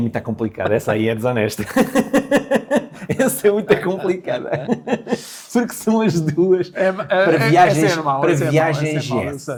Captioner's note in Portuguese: risadas